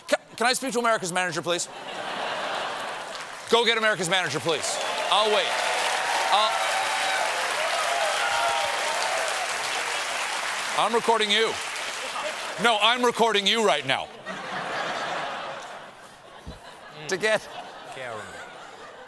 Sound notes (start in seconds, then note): 7.1 applause; 14.1 laughter